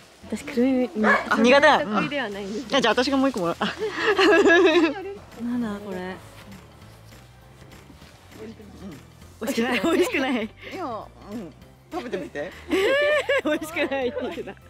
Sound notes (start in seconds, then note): 3.6 laughs